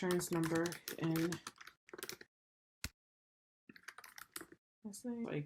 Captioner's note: keyboard and mouse clicks